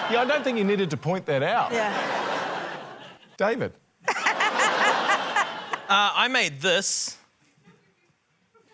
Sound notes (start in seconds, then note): 4.0 laughter